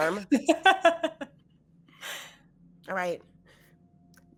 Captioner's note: laughing